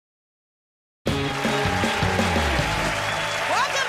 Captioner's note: cheers and applause